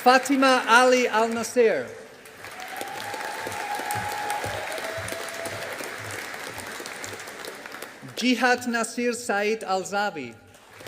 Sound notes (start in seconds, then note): 2.1 audience applauding